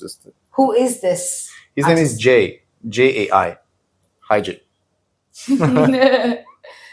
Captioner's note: laughs